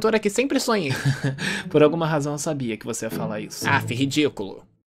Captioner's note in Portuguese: risada